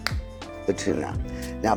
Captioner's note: spatula clanging